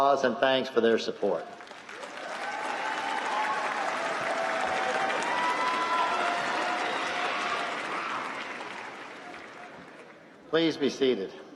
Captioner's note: applause